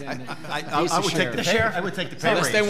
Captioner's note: laughing